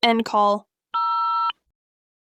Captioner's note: phone beeps